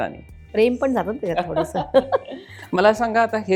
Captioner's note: laughs